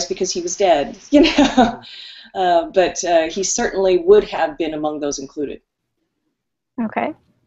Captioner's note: laughs